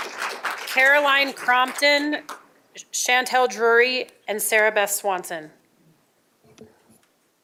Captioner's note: applause